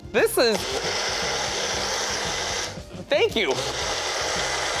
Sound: magic bullet buzzing

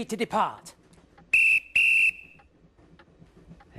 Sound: whistle blows

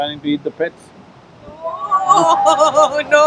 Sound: laughter

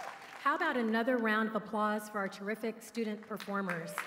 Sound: applause

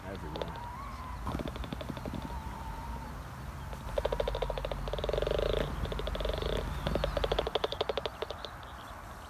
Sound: bat clicking

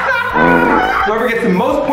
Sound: fart noises

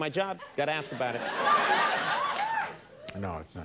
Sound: audience laughing

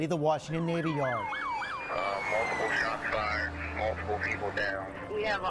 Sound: siren wails

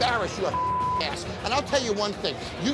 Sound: beep

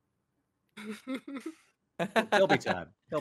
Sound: laughs

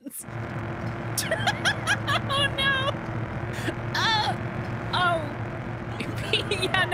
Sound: laughing

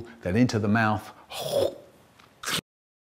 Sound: slurp

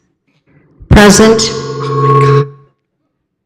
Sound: mic feedback

